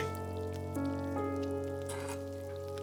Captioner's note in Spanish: none